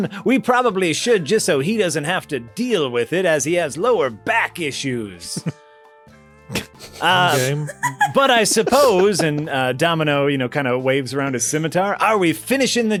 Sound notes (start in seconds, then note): 6.5 laughter